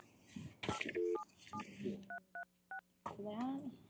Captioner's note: dialing phone